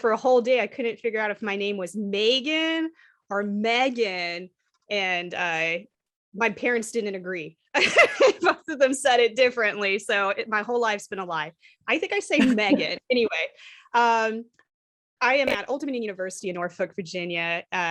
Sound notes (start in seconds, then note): 7.7 laughter